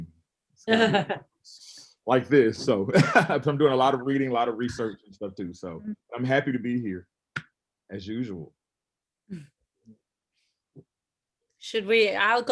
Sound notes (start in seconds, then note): 0.7 laughs; 3.0 chuckles